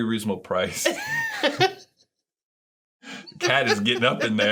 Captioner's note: laughing